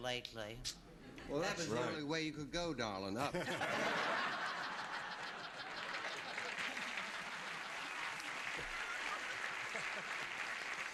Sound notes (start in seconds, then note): 3.2 laughter; 6.8 applause